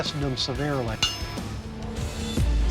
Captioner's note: clang